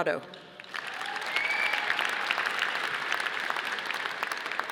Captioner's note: audience applauding